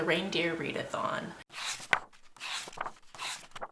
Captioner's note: pages turning